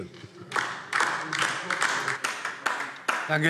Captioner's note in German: Beifall DIE LINKE